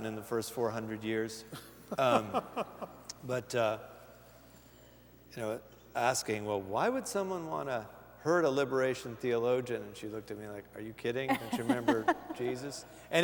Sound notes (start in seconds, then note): 1.5 laughter